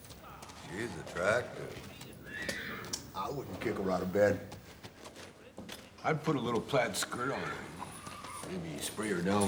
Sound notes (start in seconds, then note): 2.2 horse whinnies